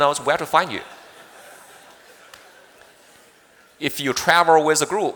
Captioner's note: audience laughing